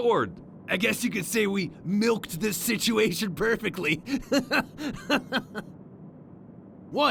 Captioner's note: laughs